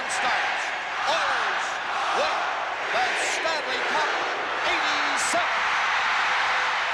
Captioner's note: cheers and Applause